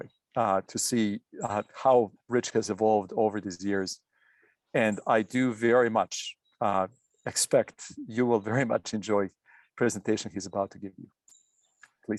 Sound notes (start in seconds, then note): none